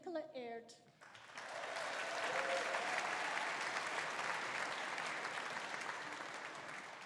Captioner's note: audience applauding; audience cheering